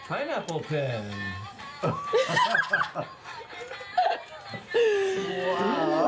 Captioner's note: laughter